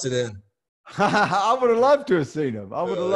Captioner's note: laughs